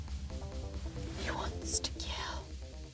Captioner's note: whispers